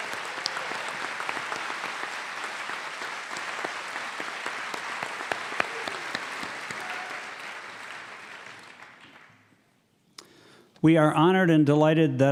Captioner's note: cheers and applause